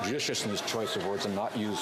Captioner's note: cheering and Applause